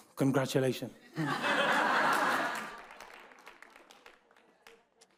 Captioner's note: audience laughs